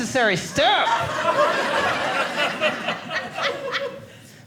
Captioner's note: audience laughing